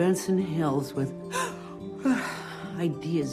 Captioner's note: gasps